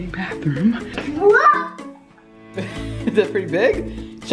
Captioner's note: gasps; laughs